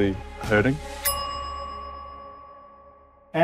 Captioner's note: chime